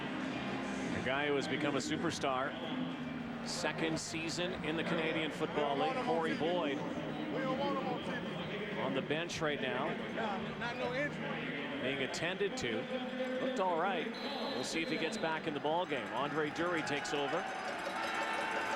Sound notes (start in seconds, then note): 15.9 whistle blows